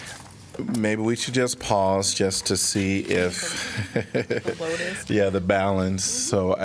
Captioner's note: laughter